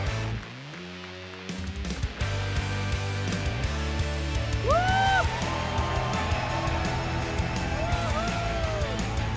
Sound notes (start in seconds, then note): 4.7 applause